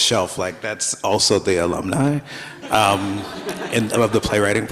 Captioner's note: everybody laughs